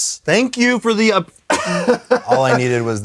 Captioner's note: laughs